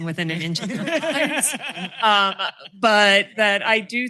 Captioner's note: laughter